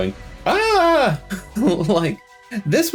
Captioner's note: wild, panicked gay screaming